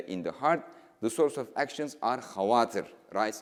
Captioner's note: speaking in foreign language